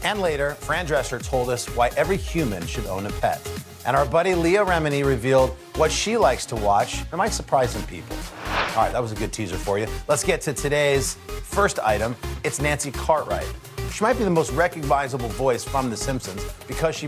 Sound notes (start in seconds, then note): none